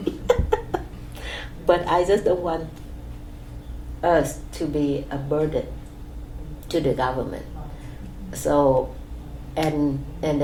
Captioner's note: laughs